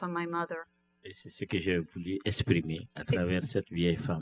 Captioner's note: speaking french